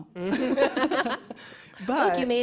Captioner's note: laughs